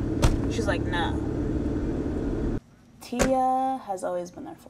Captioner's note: door slams